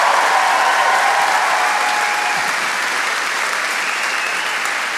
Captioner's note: audience applauds